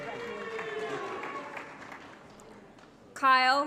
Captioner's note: applause & Cheering